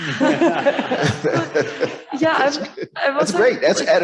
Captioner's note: panelists laughs